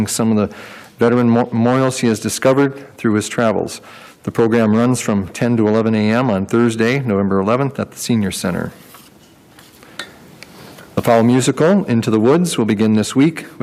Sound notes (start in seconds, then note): none